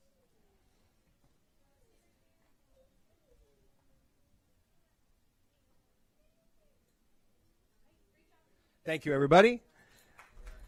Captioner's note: applause